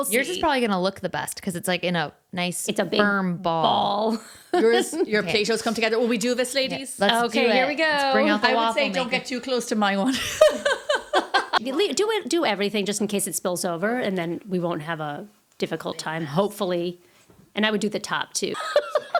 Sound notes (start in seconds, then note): 10.0 laughing